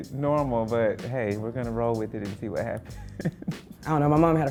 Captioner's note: laughter